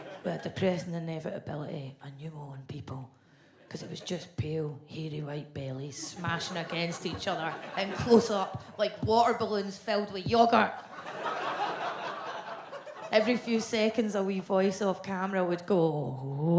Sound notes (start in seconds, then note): 10.6 audience laughs